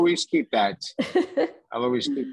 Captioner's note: laughs